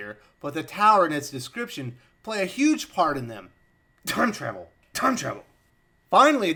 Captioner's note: cough